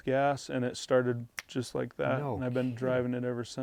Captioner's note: snaps